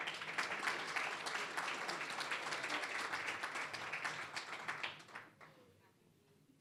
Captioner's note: applause